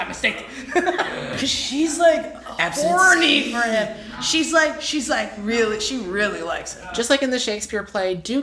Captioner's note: laugh